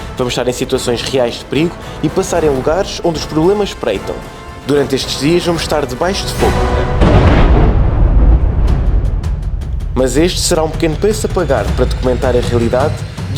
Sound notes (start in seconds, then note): 6.4 explosion